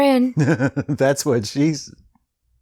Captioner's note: chuckling